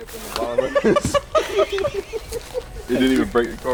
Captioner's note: laughter